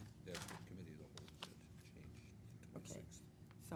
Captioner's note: speaking faintly